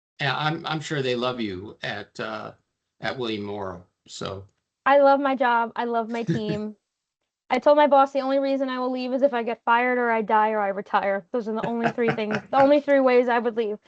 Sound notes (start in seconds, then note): 6.1 chuckling; 11.6 laughing